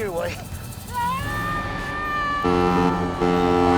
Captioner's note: madeleine and larry yelling; boat whistle